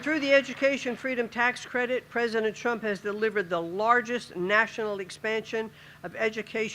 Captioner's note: applause